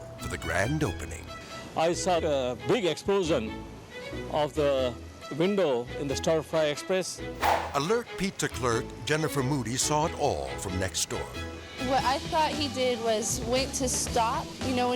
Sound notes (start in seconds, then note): 7.3 air swoosh